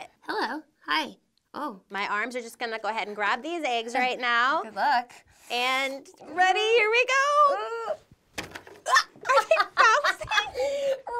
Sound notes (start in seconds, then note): 8.8 laughing